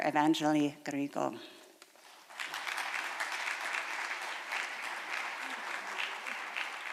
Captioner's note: applause